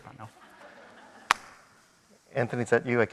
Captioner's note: audience applauding